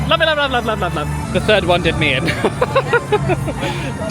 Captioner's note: laughing